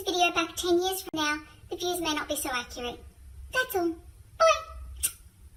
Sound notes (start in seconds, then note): 4.9 smooch